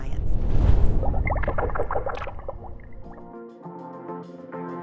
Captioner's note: water pouring; gentle upbeat music plays